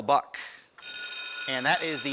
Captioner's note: ringing